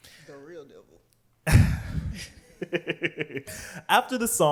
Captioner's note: laughs